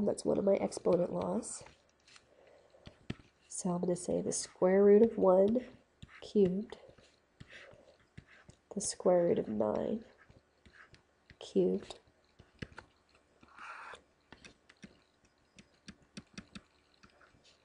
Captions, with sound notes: That's one of my exponent laws. So I'm gonna say the square root of one cubed, the square root of nine cubed. (Instructor typing)